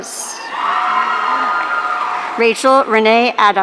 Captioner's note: audience cheering